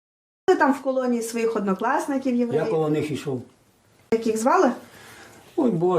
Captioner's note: interview in a foreign language